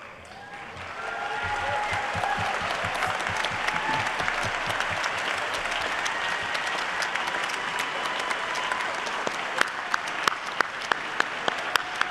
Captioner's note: applause